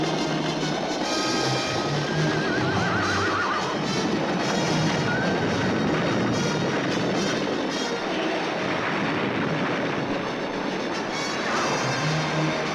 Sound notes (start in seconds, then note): 2.2 horses whinny; 5.1 horse whinnies; 7.9 suspenseful orchestral music continues